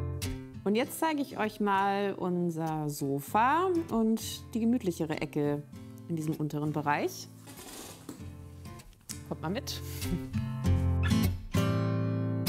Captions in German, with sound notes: Und jetzt zeig ich euch mal unser Sofa und die gemütlichere Ecke in diesem unteren Bereich. (Knarzen) Kommt mal mit. (Entspannte Musik)